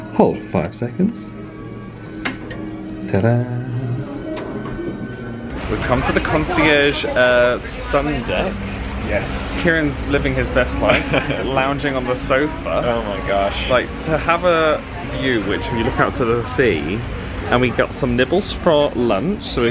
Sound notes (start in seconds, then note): 2.4 lock clicks